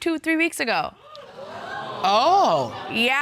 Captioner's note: audience gasp